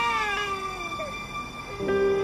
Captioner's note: baby crying